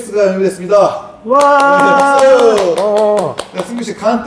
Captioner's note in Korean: 억지 강요 개노잼 박수